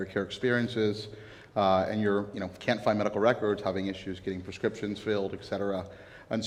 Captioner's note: none